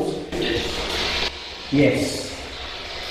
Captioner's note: static buzzing